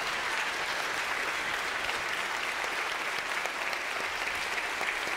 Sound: congregation clapping

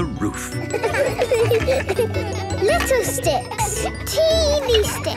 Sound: laughter

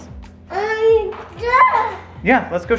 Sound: speaking gibberish

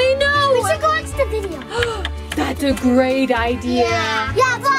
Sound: gasps

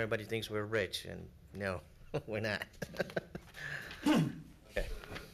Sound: chuckles

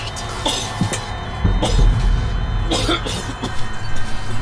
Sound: coughing

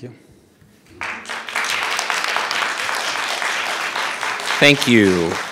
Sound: audience applauding

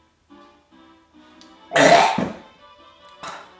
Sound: chokes

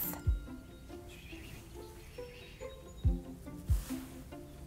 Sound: Ziggy whispers

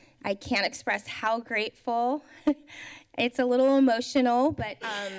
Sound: chuckles

